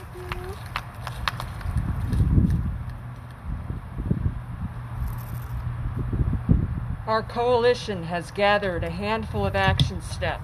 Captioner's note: applause